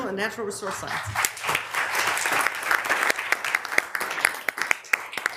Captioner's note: members applauding